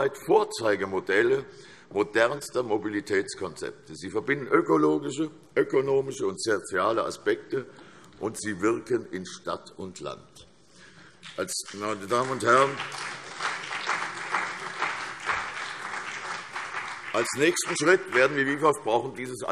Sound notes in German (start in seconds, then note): 11.6 Beifall CDU und BÜNDNIS 90/DIE GRÜNEN